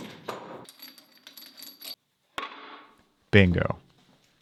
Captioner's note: bolts clatter; metal clangs